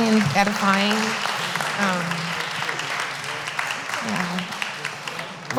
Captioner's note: applause